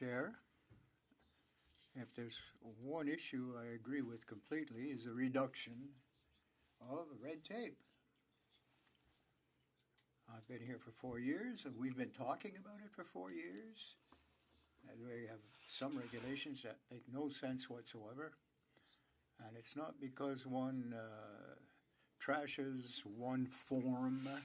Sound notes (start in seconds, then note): 5.9 speaking French